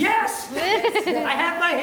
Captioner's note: laughing